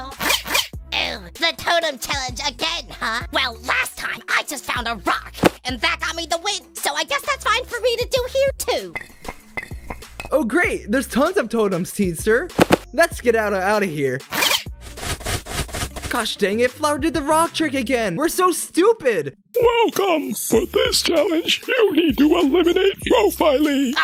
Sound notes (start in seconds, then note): 9.0 running; 14.3 zip!